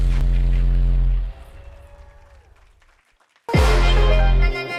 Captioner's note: cheers; applause